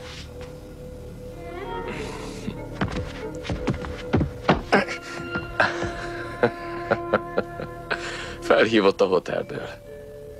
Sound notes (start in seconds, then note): 4.6 chuckles